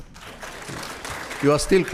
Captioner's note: audience applauds